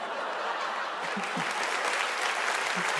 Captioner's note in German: Lachen, Applaus